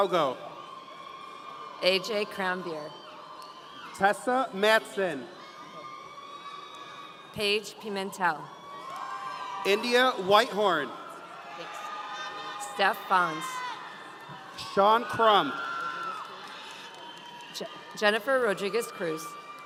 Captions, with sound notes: - AJ Cranbeer. - Tessa Matson. - Paige Pimentel. (audience cheering) - India Whitehorn. - Steph Bonds. - Sean Crump. - Jennifer Rodriguez-Cruz.